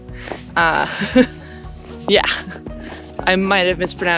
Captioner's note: laughter